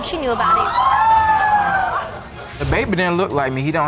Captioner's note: audience gasp and exclaim